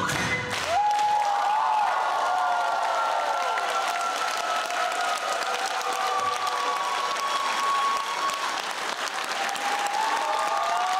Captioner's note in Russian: Аплодисменты